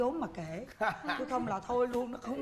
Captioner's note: laugh